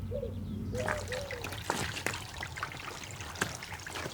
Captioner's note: water trickling